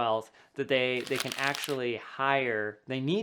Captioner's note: paper rubbing